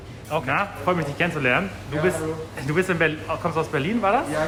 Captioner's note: speaking in foreign language